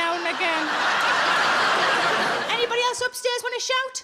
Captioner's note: audience laughs